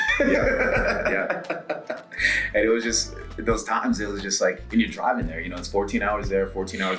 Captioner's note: laugh